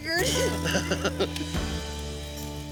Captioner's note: laughing